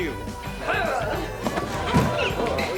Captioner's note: grunts